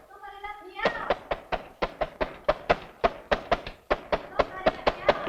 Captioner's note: hand banging